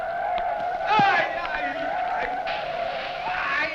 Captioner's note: men shouting